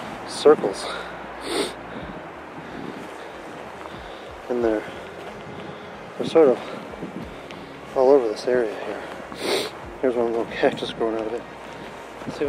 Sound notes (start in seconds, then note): 0.0 exhales; 0.8 sniffles